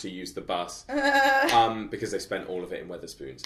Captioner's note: laughs